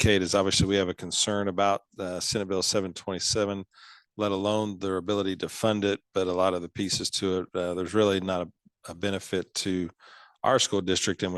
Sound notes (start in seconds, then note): none